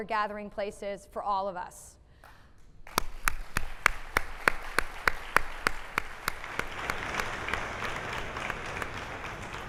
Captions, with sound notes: gathering places for all of us. (applauding)